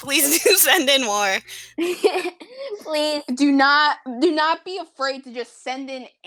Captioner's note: laugh